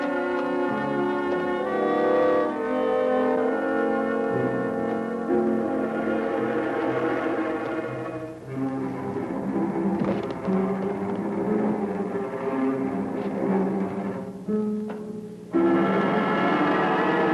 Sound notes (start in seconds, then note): 0.0 ominous music; 10.0 thump; 10.8 ominous music; 15.6 suspenseful music